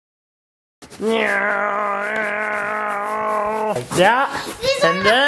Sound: grunts

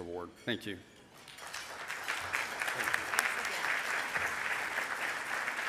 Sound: audience applauding

